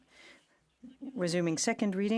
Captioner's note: speaking French